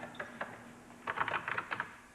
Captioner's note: typing